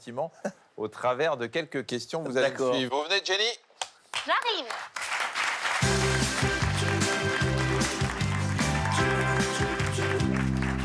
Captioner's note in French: applaudissements